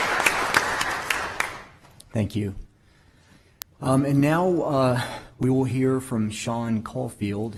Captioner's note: applause